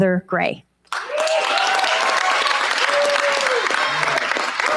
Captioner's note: cheers, applause